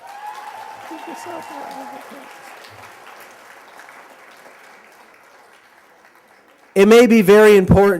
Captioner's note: applause